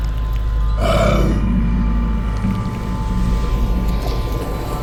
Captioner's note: chanting